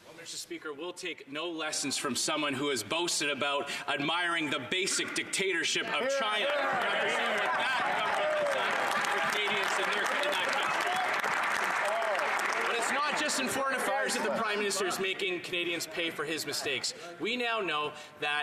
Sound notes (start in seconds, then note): 11.8 some Applause